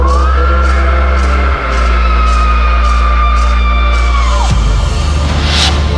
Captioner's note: screaming sounds